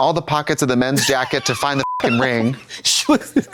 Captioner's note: beep